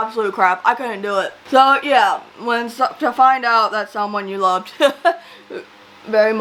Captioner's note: laughs